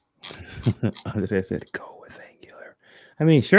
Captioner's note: laughs